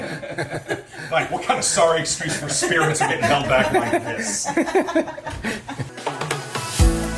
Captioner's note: laughing; murmuring; gentle music